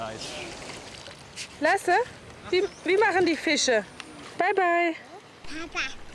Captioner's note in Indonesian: berbicara bahasa Jerman